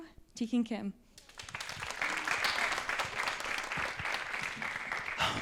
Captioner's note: applause